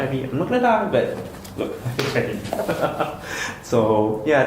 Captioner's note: laughs